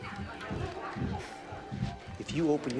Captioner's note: crowd